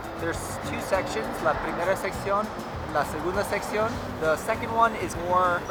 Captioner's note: in foreign language